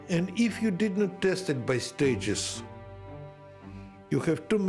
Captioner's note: none